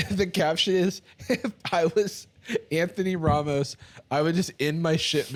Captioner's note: laughing